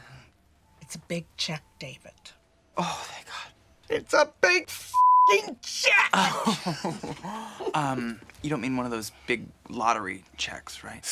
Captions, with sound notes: It's a big check, David. - Oh, thank God. - It's a big (beep) check. - Oh. (laughing softly) You don't mean one of those big lottery checks, right?